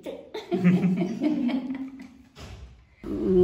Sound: laughing

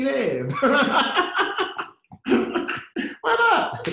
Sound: laughter

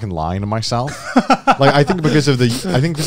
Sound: chuckling

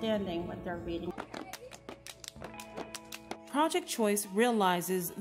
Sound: crowd clapping and cheering

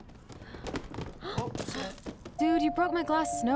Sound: Max gasps

